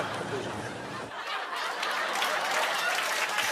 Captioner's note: laughter and applause